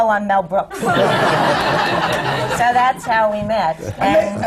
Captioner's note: laughter